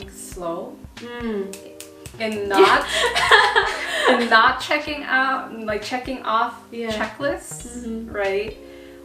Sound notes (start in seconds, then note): 0.8 snaps and laughs in agreement; 2.5 laughs